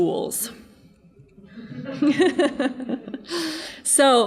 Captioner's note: laughing